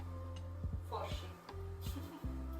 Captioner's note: in Latvian slang